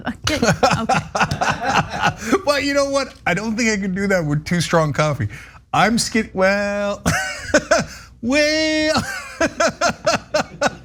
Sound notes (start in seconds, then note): 0.0 laugh; 8.9 laugh